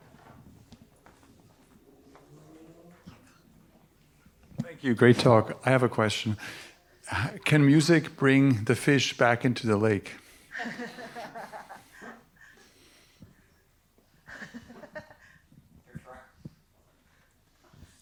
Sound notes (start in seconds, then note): 10.5 laughter